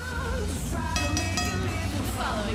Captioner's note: bell ringing